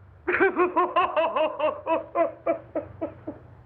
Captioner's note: maniacal Crying